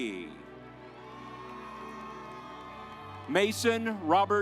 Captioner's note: audience applauds